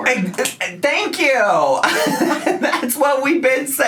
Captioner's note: laughs